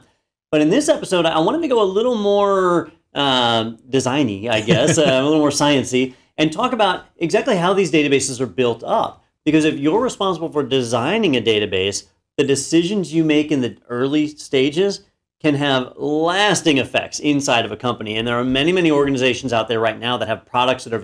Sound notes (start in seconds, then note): 4.5 laugh